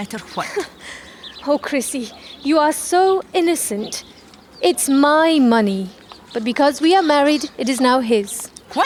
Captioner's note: laughs